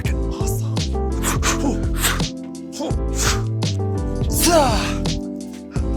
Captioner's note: everyone making kung fu noises